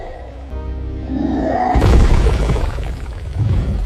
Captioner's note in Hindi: कराहने की आवाज़